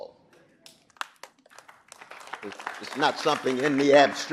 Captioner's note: audience applauding